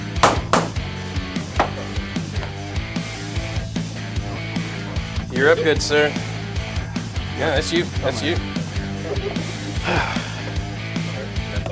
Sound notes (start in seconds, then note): 9.8 audible sigh